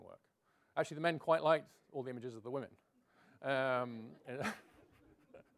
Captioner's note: laughs